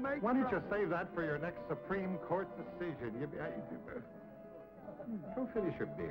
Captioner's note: stammers